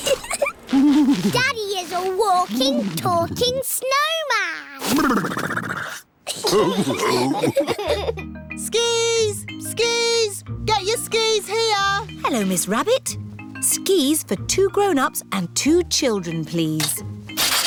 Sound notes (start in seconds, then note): 0.0 giggles; 6.6 all laughing